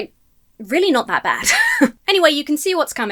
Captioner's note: laughs